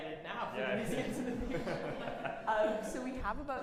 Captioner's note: everyone laughs